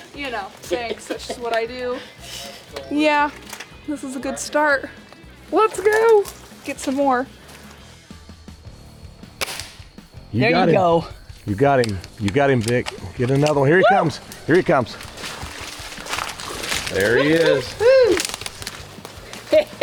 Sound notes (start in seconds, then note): 0.6 chuckles; 9.3 airgun firing; 13.7 cheers